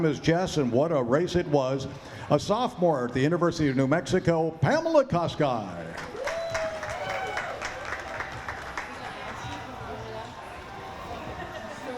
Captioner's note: applause and cheering